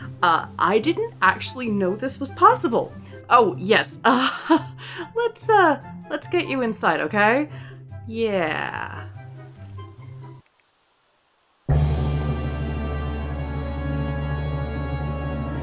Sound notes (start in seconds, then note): 3.7 nervous laughter; 11.7 dramatic music